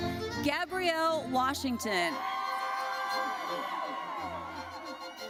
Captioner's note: audience cheers